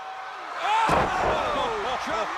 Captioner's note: crowd cheering